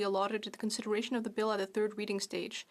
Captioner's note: speaking French